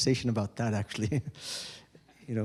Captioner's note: chuckles